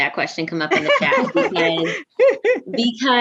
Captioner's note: everyone laughs